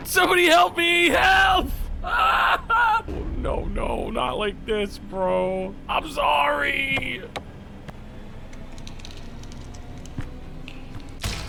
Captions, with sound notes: Somebody help me! Help! (yells)" Oh, no, no, not like this, bro. I'm sorry! (mechanism whirs to life)